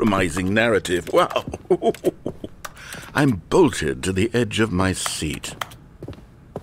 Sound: chuckling

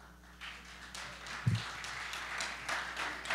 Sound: applause

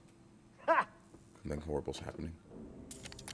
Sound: laugh

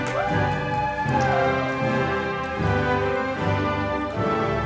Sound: audience applauding

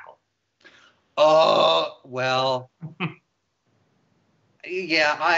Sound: grunt; laughs

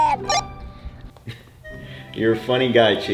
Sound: beeps

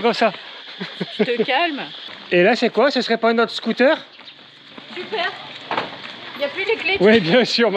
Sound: laughs

